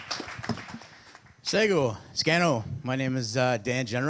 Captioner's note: audience applause; in Mohawk